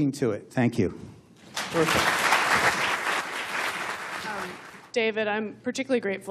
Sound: applause

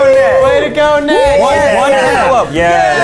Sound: cheering

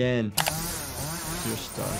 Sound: chainsaw buzzing

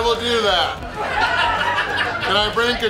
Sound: crowd laughs

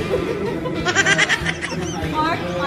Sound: laughing

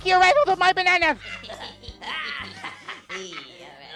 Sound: laughing

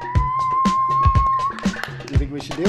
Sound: energetic techno music; clapping

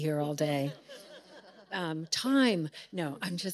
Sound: audience laughing

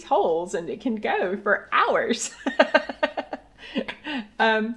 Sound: laughs

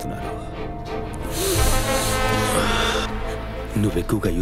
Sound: sniffs

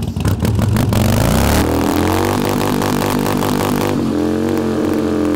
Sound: motobike revs

